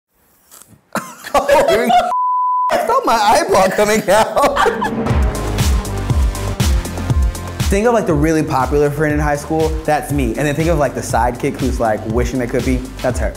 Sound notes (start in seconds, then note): 0.4 sharp inhale; 0.9 coughing; 0.9 laughter; 5.1 strong beat music